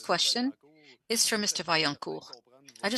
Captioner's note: speaking French